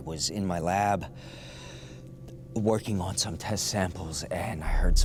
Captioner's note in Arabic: يستنشق بعمق